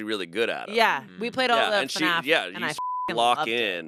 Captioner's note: beep